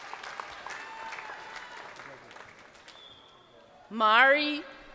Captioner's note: crowd applauding